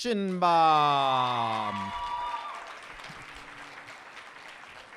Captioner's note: applause and cheers